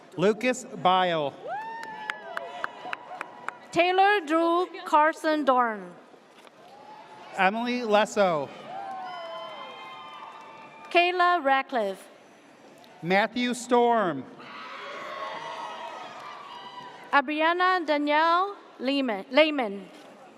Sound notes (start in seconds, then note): 1.5 audience cheers; 8.6 audience cheers; 14.5 audience cheers